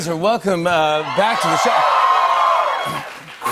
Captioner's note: cheers and applause